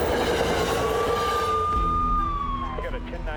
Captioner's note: gun shots; sirens